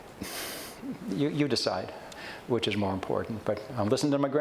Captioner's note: sighs